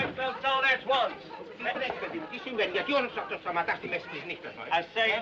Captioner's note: Passageiros tagarelando; Falando em língua estrangeira